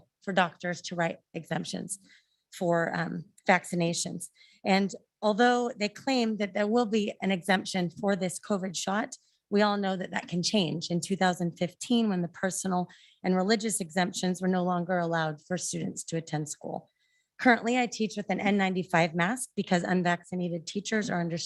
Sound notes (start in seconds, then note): none